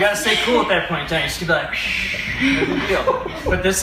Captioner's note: breathes out slowly